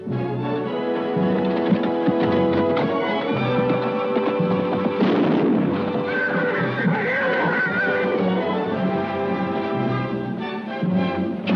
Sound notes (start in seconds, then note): 5.4 golpes de arma; 8.7 música emocionante